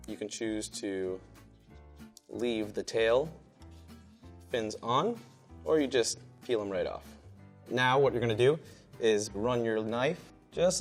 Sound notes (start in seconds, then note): none